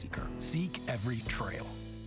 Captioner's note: clock ticking